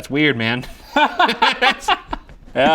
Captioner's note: both laughing